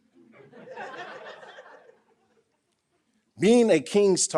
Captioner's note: audience laughing